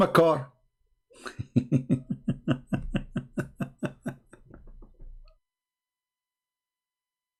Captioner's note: Ketawa